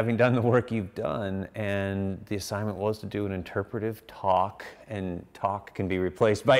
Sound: none

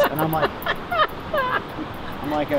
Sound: laughter

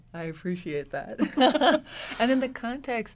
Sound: both women laugh

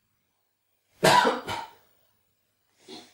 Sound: cough

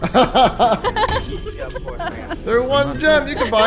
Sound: both laugh

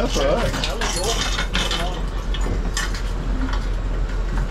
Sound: keys jiggling

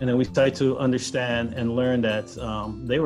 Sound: none

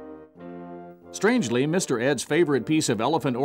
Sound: voiceover

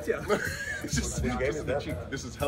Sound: laugh

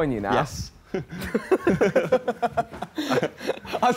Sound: laughing

